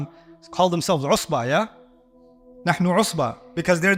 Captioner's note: Arabic